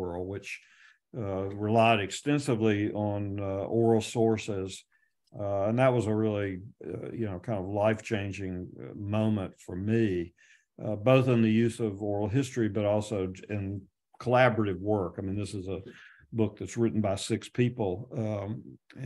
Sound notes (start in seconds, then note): none